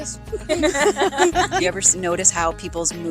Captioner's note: laughing